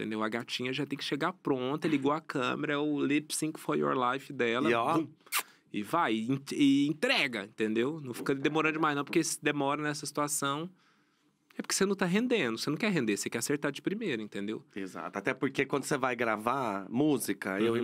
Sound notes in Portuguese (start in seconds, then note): 5.2 beijo